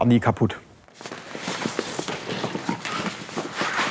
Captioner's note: shuffling sounds